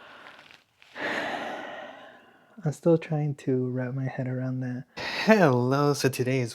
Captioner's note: sighs